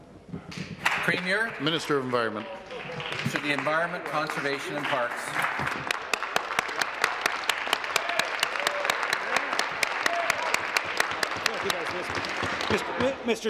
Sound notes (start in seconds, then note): 2.9 applause; 11.7 applause